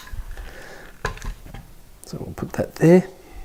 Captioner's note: clanking